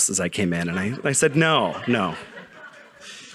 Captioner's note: audience laughing